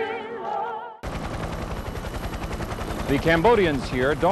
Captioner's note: helicopter blades whirring